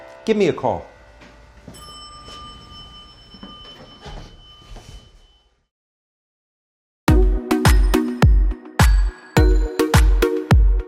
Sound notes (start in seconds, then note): 1.4 elevator bell dings; 7.1 upbeat music